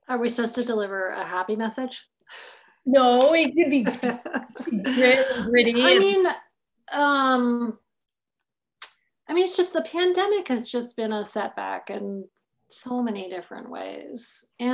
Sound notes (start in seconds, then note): 3.8 laughter